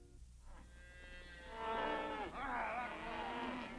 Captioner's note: cattle lowing